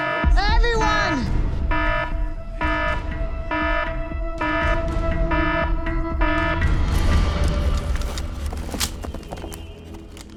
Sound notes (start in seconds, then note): 0.0 alarm blaring; 7.4 guns cocking